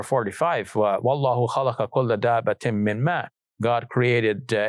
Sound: speaks in Arabic

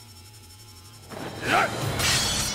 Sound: grunting

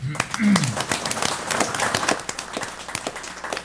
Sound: applause

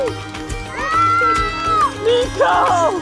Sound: shouts

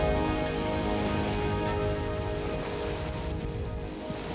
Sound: waves lapping

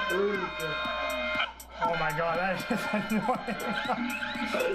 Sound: laughter

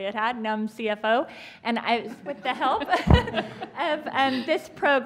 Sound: laughter

